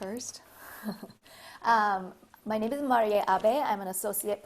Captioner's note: laugh